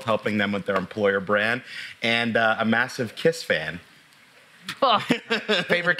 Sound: laughs

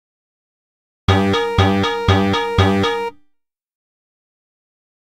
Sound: sound of alarm

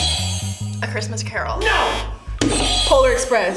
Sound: buzzer rings

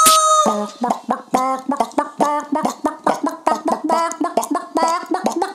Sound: chicken clucks

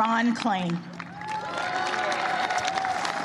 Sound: applause

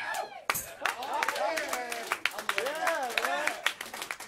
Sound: clapping and cheering

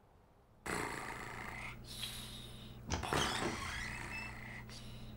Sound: Pilchard Snoring

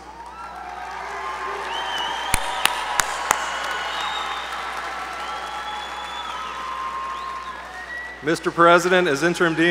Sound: applause

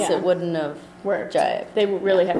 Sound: voiceover

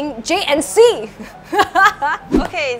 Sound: laughs

